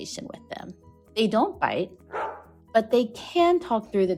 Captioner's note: bark